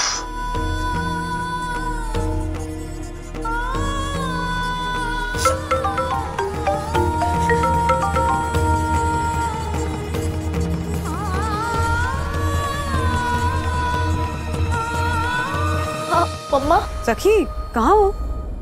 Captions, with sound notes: [emotional music] [phone ringing] [emotional music] - Mom. - Sakhi, where are you?